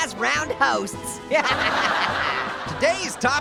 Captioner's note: Orange laughs